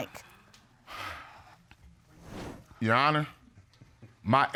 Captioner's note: sighs